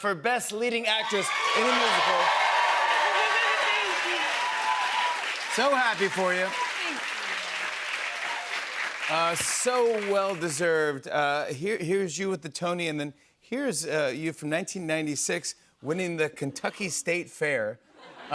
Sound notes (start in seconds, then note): 2.1 cheers and applause; 8.0 applause